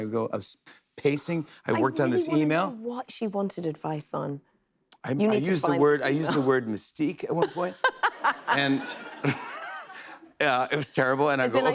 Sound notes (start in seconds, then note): 7.3 laughter; 7.4 laughs